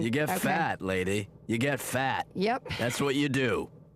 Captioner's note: none